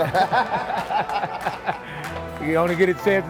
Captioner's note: laughing